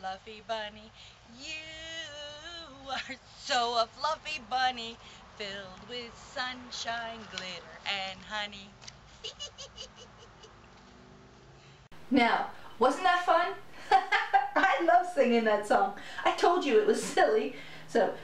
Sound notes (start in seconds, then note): 9.1 giggling; 13.8 laughter